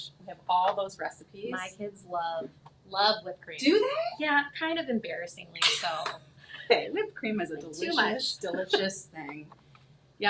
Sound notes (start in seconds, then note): 7.8 chuckles